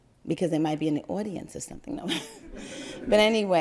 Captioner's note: crowd laugther